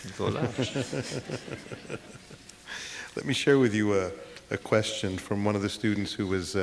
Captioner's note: laughter